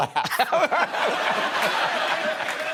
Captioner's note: laughter